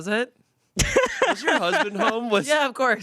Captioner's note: laughs